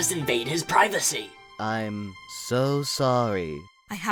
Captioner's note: sarcastically